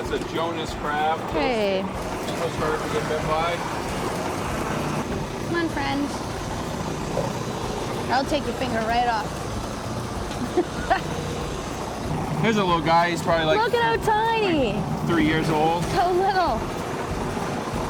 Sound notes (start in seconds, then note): 1.5 boat engine roars; 10.3 laughs